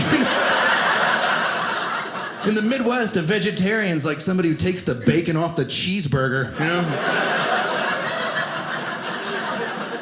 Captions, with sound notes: (audience laughing) In the Midwest, a vegetarian's like somebody who takes the bacon off the cheeseburger. (audience laughing)